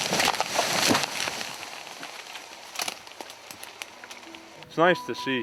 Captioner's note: cracking and crashing